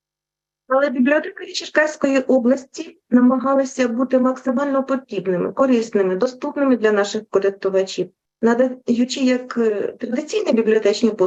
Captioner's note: foreign Language Spoken